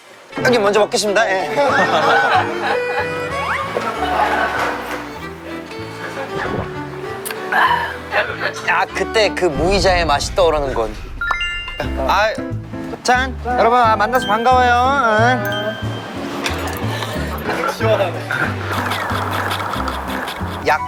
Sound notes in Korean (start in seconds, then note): 7.4 꼴깍